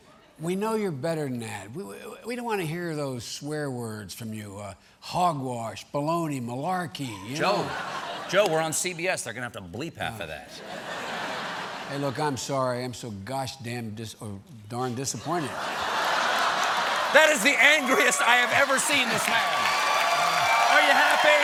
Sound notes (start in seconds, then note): 10.7 laughter